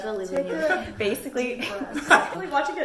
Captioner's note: laughs